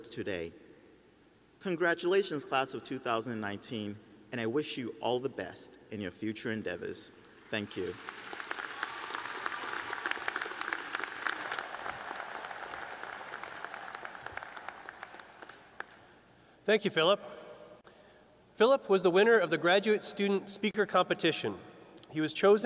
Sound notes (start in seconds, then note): 8.3 applause